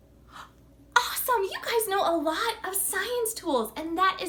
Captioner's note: gasps